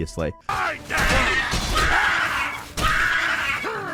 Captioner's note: people screaming